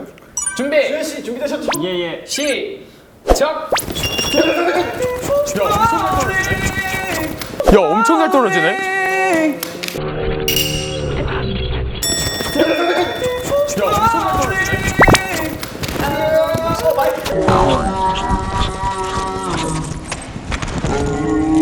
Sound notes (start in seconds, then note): 14.9 fluttering